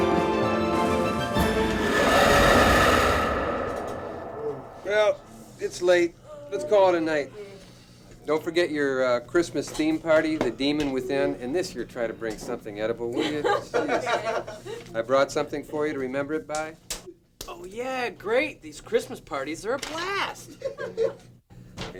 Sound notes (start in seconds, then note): 0.0 dramatic music; 1.4 creature roars; 14.2 chuckles; 20.7 group chuckles